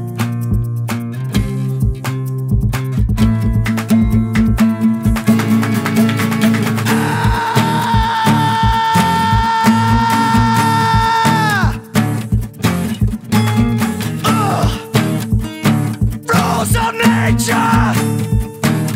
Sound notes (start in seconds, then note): 6.8 extended Scream